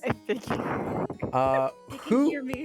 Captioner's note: thunder claps